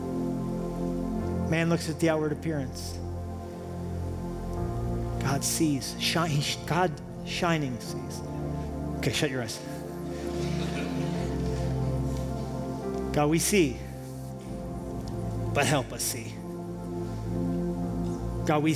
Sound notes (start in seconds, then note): 10.4 laughter